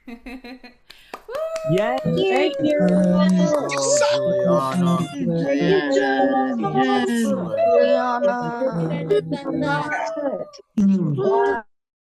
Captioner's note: applause